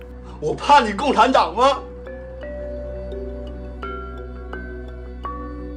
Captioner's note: speaking foreign language